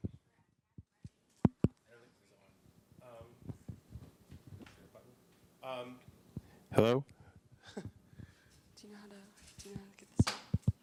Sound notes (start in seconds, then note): 7.6 chuckles